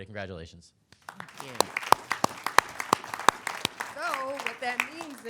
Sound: claps

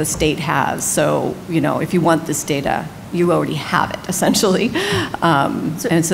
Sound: laughs

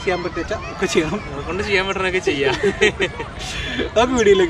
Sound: laughing

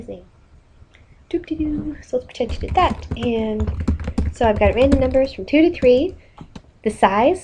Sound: hums a song

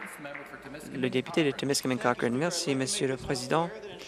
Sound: applause

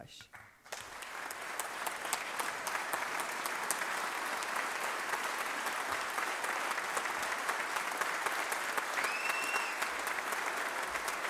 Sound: applause

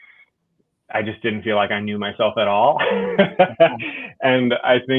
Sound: laughs

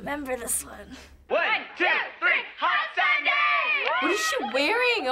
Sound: cheering

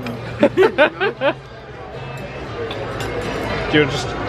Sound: laughs

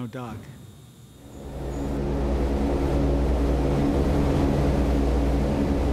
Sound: airplane rumbling

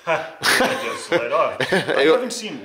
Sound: laughs

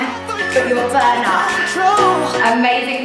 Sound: alarm beeping

